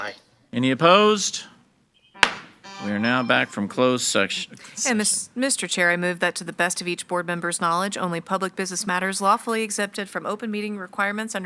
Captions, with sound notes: - Any opposed? (gavel bangs) We are now back from closed session. - And Mr. Chair, I move that to the best of each board member's knowledge only public business matters lawfully exempted from open meeting requirements